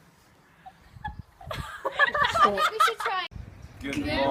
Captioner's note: giggles